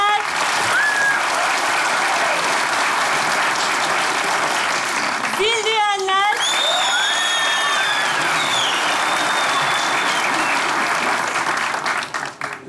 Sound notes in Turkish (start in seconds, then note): 0.2 alkış sesleri; 6.3 alkış ve ıslık sesleri